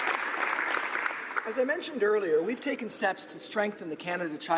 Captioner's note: applause